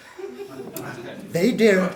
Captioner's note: audience laughing